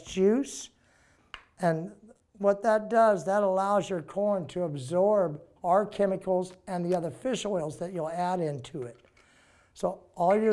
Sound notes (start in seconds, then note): none